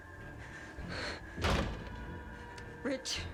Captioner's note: gasps; door thuds